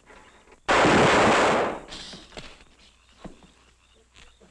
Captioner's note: guns roaring